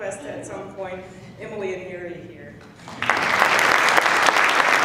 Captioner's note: applause